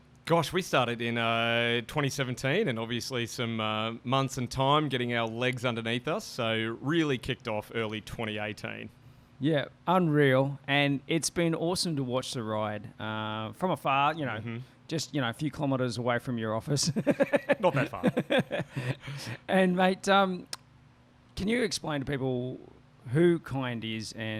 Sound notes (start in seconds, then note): 16.9 laughs